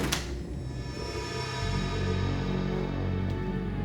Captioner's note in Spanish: sonido al cerrar la puerta